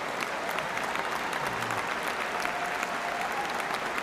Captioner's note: cheers and applause